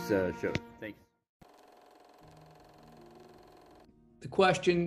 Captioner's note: machine whirring